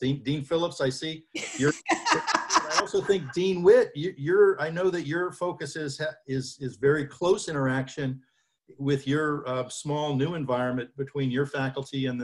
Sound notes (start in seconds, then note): 1.4 laughs